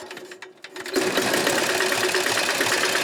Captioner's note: engine starts